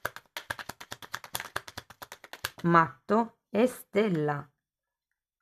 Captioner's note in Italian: Applauso